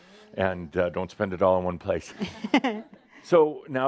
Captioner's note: she chuckles